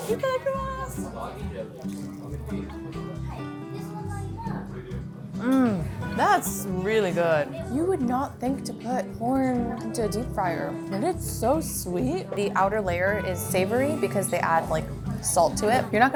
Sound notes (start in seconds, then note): 0.1 speaks in foreign language; 1.9 people chattering in foreign language